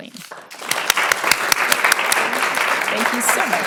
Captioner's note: audience applauding